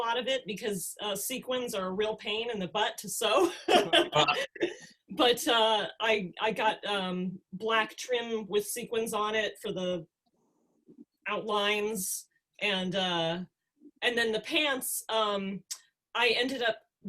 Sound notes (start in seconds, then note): 3.4 laugh